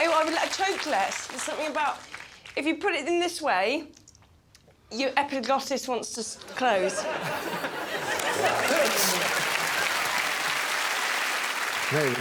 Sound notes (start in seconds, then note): 6.8 all laughing; 7.9 applause